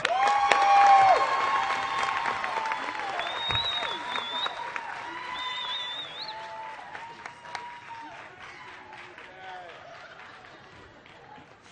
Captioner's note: applause